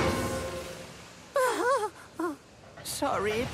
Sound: percy sighs

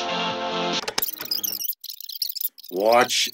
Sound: tape rewinding

